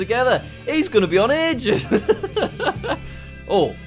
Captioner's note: laughs